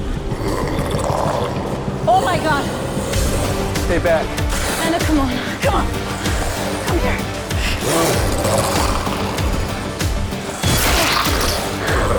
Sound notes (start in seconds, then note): 1.5 zombies growling; 8.1 dramatic music; 8.1 zombies growling; 10.6 blood squelches